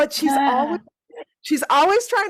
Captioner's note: laughing